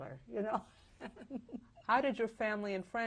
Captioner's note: chuckles